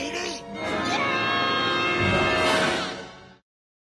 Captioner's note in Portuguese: Grito